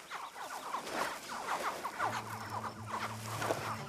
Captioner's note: hatchlings honk and chitter